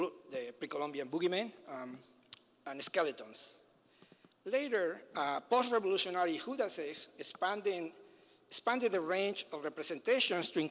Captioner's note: foreign language